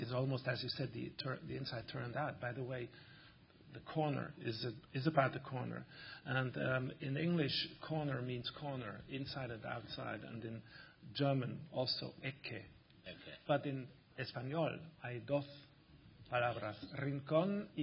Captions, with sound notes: It's almost, as you said, the inside turned out. By the way, the corner, it's about the corner. And in the English, corner means corner, inside and outside. And in German, also, [GERMAN]. But in español [SPEAKING SPANISH]